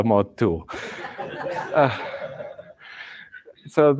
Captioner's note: laughter